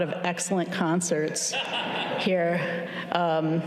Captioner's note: chuckles